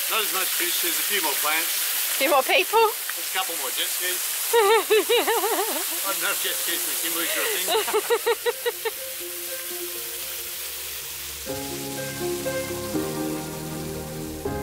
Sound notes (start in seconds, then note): 7.2 laughs; 12.0 slow music